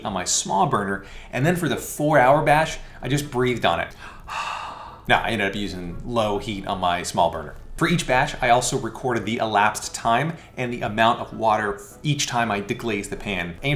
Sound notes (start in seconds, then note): 3.9 breathing